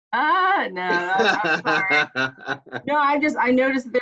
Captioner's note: laughs